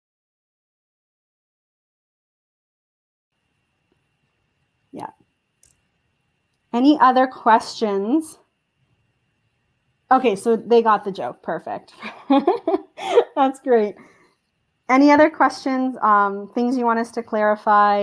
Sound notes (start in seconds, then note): 0.0 pause; 12.0 chuckle